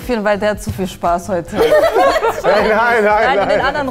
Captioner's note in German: Lachen